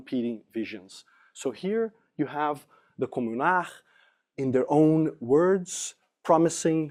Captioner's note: french